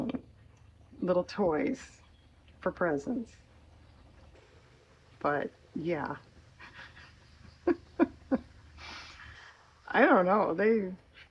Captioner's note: laughs